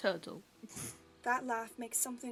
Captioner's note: Regulus laughs